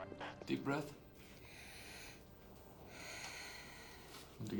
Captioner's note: breathes deeply